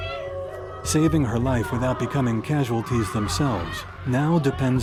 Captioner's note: voiceover